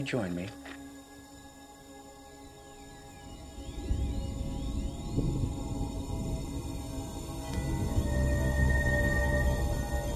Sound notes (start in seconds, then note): 4.7 thunder rumbling; 4.8 ethereal music builds; 7.6 blue rock pulsing